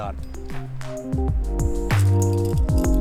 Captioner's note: metal clinking; climbers chattering